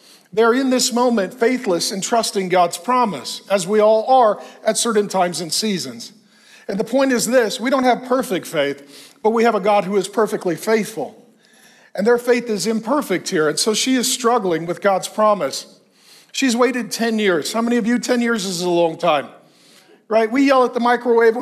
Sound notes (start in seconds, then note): none